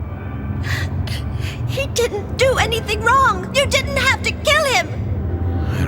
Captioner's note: sobbing